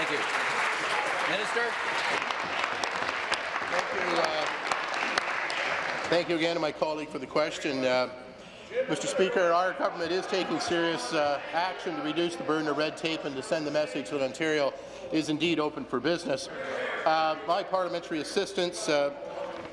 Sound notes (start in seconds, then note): 2.0 applause